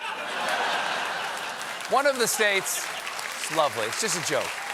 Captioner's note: applause